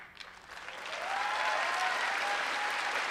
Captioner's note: applause